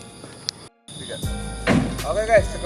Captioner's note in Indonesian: cricket sound